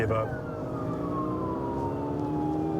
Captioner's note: siren blaring